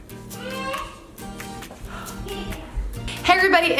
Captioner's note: whining